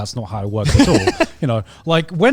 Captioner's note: laughing